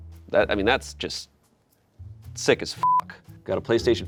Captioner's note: beep